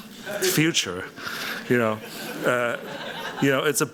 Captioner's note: laughter